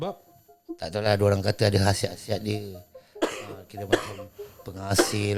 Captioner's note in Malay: batuk